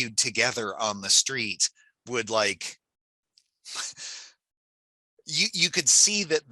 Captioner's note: chuckles